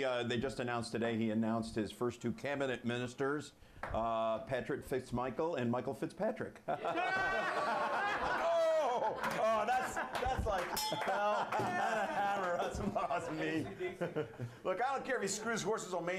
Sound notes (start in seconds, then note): 7.9 laughter; 10.7 bell Rings